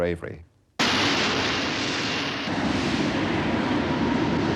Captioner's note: plane engine roaring